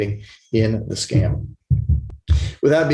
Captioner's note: thumping sound